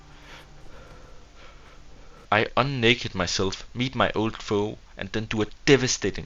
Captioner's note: heavy breathing